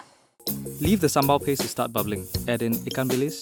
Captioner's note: voiceover